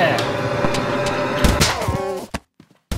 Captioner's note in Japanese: 効果音